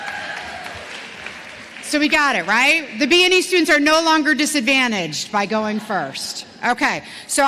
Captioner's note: cheers and applause